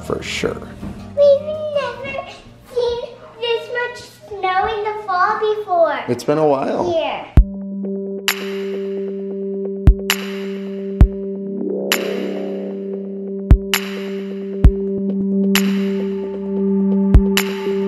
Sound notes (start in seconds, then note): 7.8 percussive music; 8.7 hands clapping